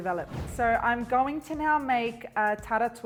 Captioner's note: whoosing